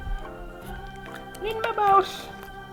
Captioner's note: Spudgy voice